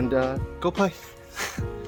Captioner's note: aww